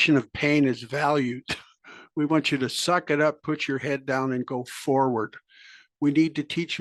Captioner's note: laugh